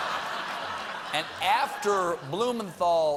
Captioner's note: laughter